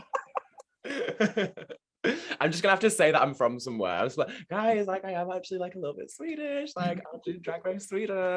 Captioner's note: laughs